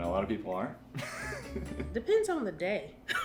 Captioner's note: laughing